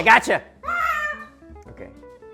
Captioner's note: ahh!